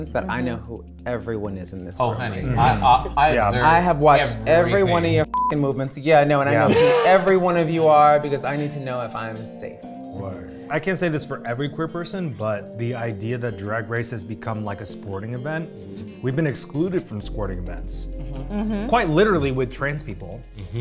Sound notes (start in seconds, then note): 5.3 beep